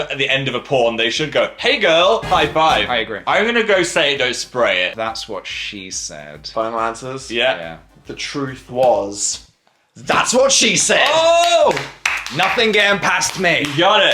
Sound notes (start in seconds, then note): 2.2 cheerful brass music; 10.8 claps